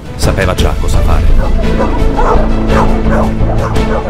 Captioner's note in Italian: cani che abbaiano